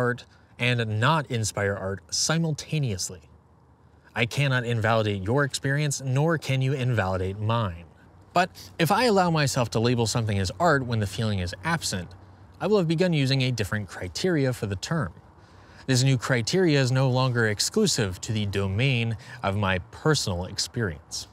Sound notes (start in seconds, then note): none